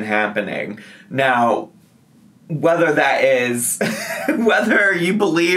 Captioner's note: chuckles